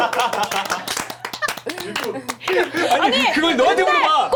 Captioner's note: clapping and laughing